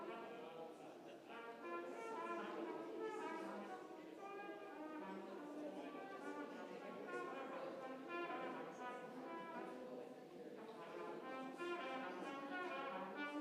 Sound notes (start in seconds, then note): 7.9 congregation chattering; 7.9 trumpet music